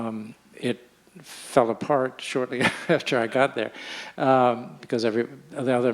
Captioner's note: chuckles